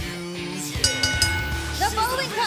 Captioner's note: bell ringing